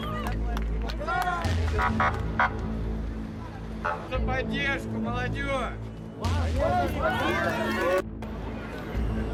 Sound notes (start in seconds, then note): 2.4 people chatter indistinctly; 2.4 police sirens buzz